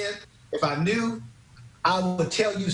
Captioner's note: laughing